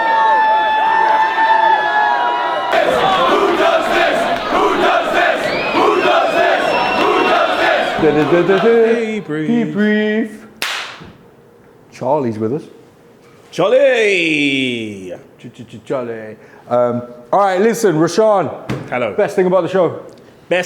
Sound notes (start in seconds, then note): 2.6 chanting; 3.6 crowd